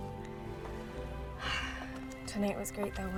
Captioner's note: sighs